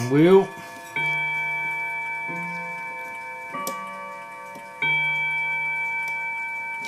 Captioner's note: clock Chiming